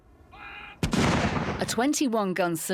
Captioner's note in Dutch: kanonnen bulderen